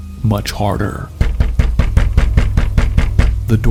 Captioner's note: loud banging